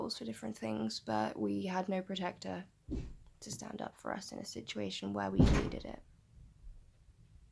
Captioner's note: loud bang off camera